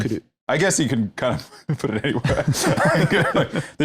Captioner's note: laughs